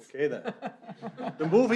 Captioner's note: laughter